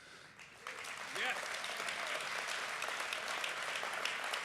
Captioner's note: applause